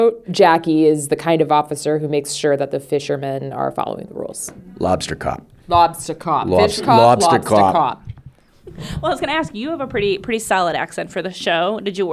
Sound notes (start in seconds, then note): 4.9 new England accent